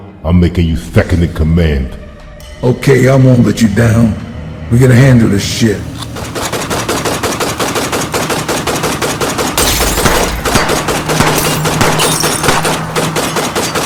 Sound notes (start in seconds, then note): 5.8 guns shoot; 6.7 windows shatter